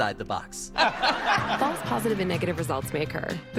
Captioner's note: audience: laugh track